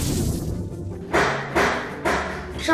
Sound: whooshing; knocking on door

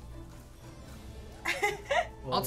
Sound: laughing

